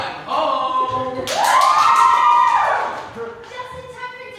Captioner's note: cheers